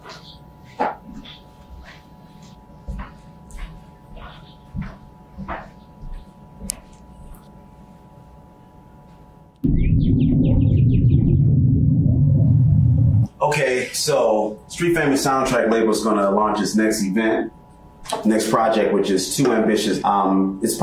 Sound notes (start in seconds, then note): 0.6 footsteps; 9.6 birds chirping